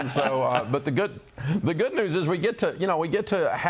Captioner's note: laughter